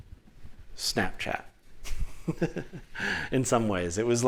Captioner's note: laughter